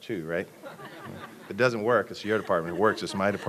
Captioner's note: laughter